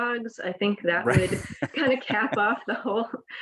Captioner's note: laughs